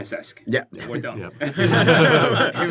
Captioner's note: laughter